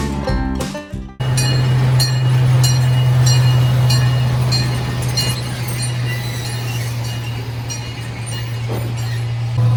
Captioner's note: train bell